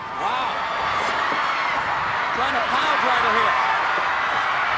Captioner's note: applause